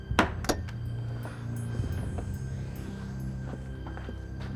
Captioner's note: eerie tinkling